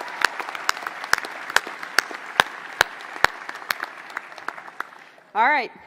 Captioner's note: applause